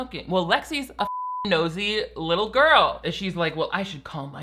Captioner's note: beeps